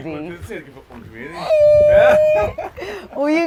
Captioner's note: laughs